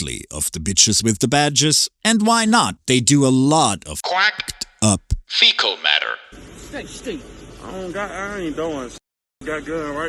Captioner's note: quack